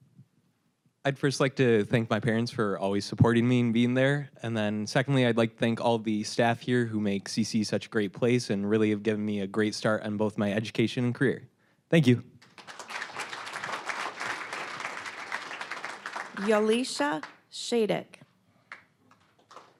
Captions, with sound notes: >> I'd first like to thank my parents for always supporting me, and being there. And then, secondly, I'd to thank all of the staff here who make CC such a great place, and really have given me a great start in both my education and career. Thank you. (applause) >> Aleesha Shattuck.